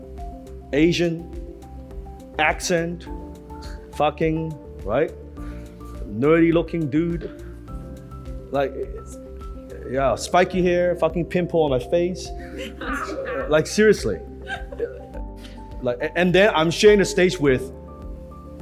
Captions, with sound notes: Asian, accent, fucking right? Nerdy looking dude. Like Yeah, spiky hair, fucking pimple on my face, (crowd laughs) like seriously. And then I'm sharing the stage with